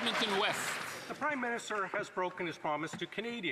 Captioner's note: applause